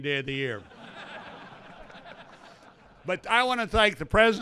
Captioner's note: laughter